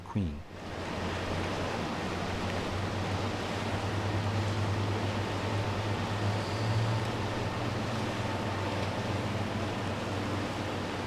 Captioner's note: ship sounds